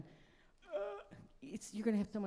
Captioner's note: gasps